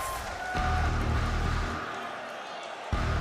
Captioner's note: crowd cheers